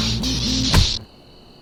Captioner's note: blow lands